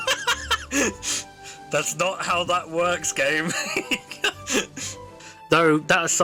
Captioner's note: laughs; laughs